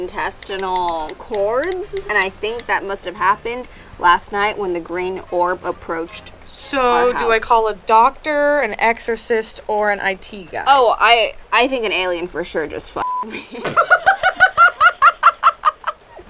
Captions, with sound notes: and I think that must've happened last night when the green orb approached our house. - So do I call a doctor, - an exorcist or an IT guy? - Oh, I think an alien for sure just (beep) me. (laughing)